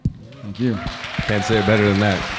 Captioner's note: audience cheering